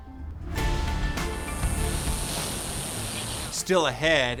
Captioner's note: drone buzzing; upbeat music